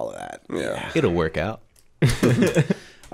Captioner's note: laughter